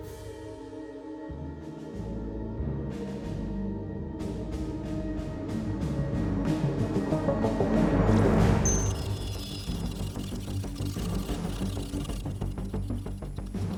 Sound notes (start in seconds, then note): 5.6 dramatic music; 9.1 device whirring